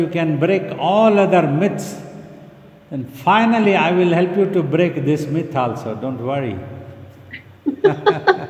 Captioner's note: chuckling